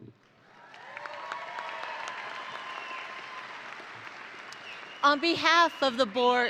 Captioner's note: audience applauding and cheering